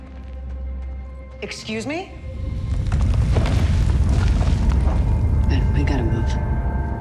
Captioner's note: stone rumbling